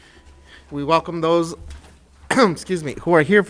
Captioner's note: coughs